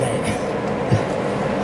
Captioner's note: laughing